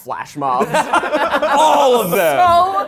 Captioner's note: all laughing